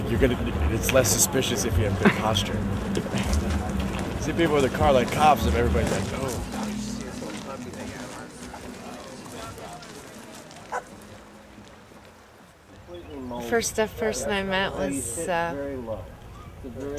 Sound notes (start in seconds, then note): 1.6 chuckles; 7.6 chattering; 10.7 dog barking